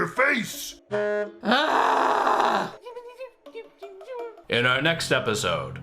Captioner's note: angry exasperated groan